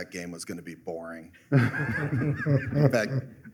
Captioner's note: laughter